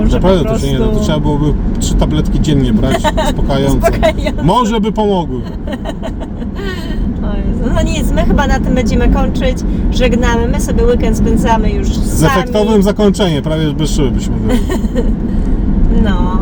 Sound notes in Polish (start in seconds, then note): 5.2 śmiech